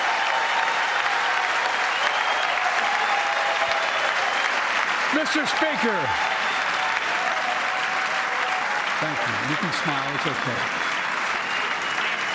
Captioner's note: cheers and applause